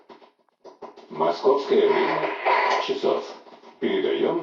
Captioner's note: interference